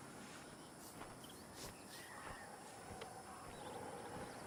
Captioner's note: birds chirping